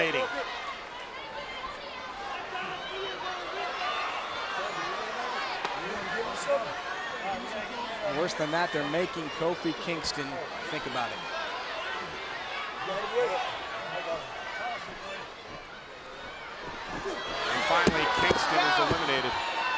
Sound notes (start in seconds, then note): 0.3 crowd yelling; 11.4 crowd yelling; 16.2 crowd sighing; 19.6 crowd yelling